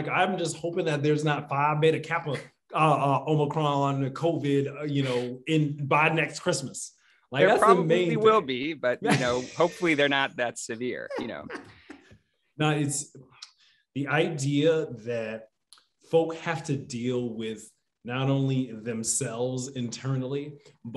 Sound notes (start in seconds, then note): 11.0 laughing